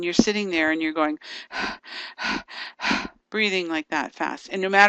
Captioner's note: breathing heavily